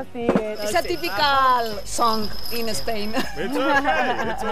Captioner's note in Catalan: en anglés